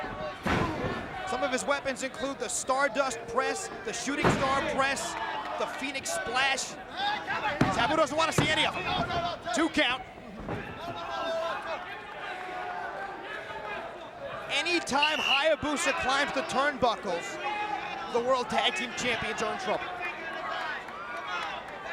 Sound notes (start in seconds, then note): 12.1 applause